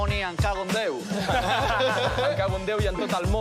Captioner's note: laughs